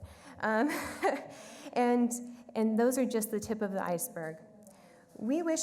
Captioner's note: laughs